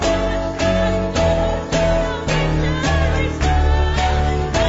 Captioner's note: చప్పట్లు